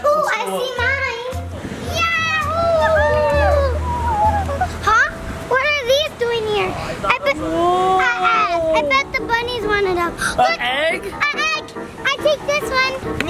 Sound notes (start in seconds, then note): 1.8 girls exclaiming; 8.0 exclaiming